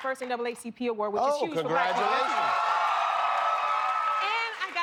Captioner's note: cheers and applause